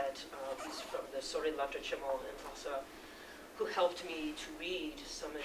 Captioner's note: non-english speech